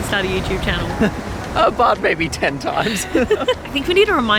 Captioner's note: laughing